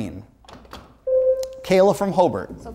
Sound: buzzer sounds

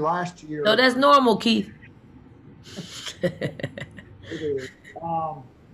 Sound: laughs

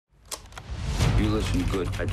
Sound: clicks

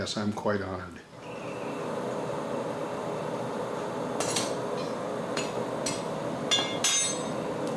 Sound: sound of furnace fire and metal tools in background

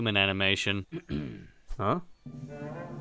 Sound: Thomas clears throat

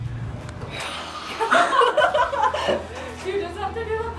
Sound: students laugh

